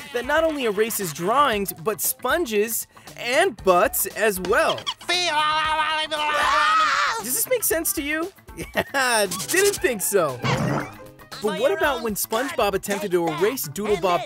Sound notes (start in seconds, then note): 5.0 talking gibberish; 6.0 screaming